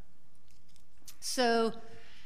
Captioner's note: none